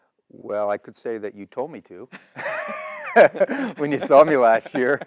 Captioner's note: laugh